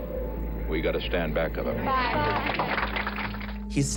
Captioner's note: applause